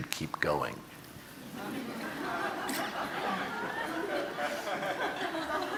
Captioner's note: audience laughing